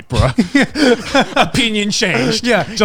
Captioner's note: laughing